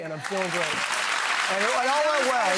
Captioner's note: audience cheering and clapping